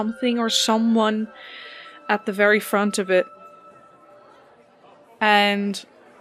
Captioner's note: bells, faint crowd noises